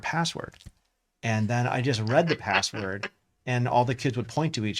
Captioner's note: laughs